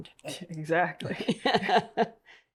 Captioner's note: both laugh